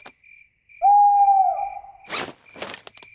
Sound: hooting

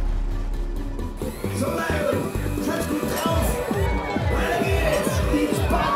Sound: deejay speaking German

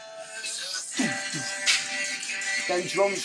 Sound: imitating drums

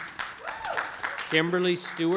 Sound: audience applauding

